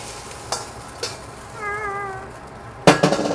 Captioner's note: aaaahh!